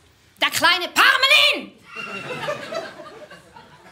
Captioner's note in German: Schreiend